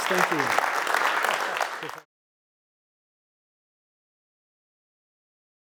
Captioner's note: audience applause